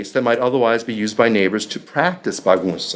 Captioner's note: speaking foreign language